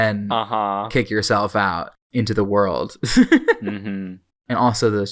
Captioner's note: laughs